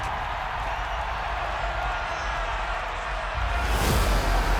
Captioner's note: crowd cheering